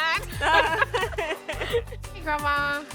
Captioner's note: laughter